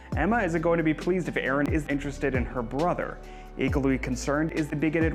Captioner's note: none